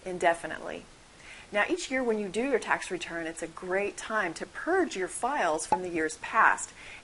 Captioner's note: pop